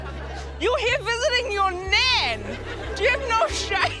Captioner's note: laughter